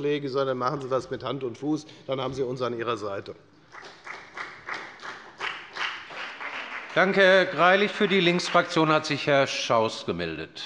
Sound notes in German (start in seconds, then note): 3.6 Beifall bei der FDP